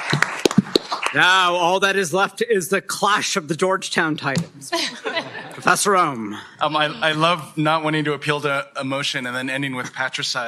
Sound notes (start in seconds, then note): 4.7 laughter